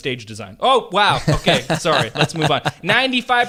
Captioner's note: laughing